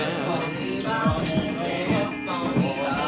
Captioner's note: imitating gospel singing; indistinct chatter; tense music